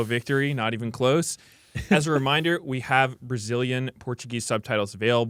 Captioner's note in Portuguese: risos